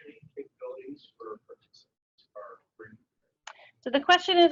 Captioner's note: audio drops